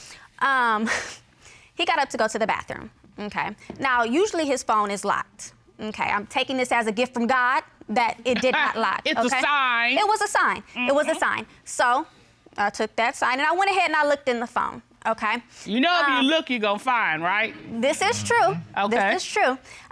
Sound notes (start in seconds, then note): 8.3 chuckles